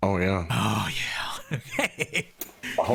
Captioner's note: laughs